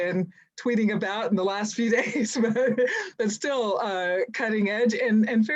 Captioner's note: laughs